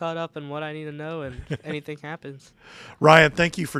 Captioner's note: laughing